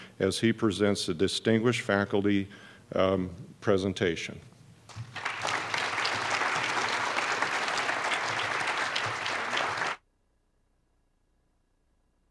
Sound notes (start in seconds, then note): 4.9 applause